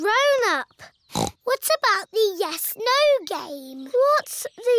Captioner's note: snorts